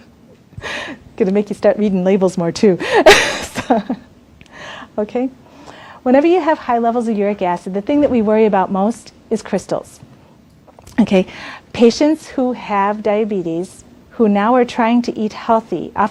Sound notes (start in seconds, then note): 3.2 laughs